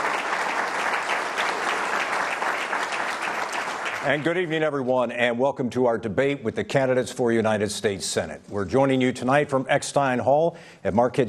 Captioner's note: applause